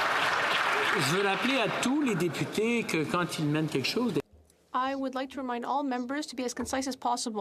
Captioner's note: applause